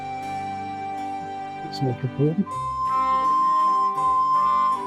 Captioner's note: Danish